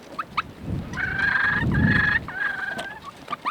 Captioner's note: wind rushing